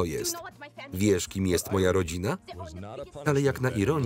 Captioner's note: voiceover